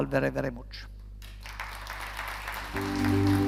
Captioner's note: audience applauding